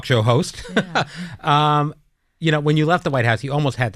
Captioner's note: laughter